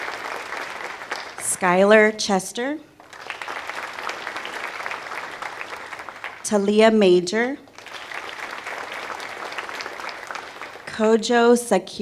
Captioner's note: applause